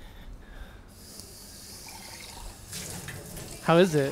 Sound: water trickling

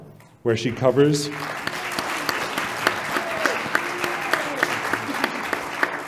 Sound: applause

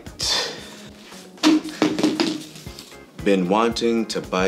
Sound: bottle dropping

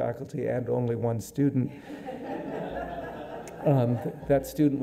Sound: audience laughing

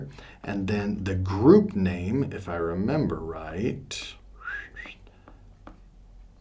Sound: whistles

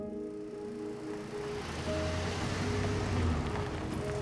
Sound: truck engine

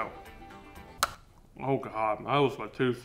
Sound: candy bar cracking

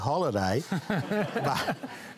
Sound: laughter

